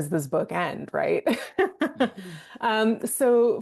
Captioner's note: laughing